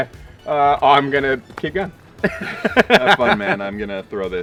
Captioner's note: laughs